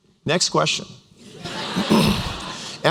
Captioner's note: laughter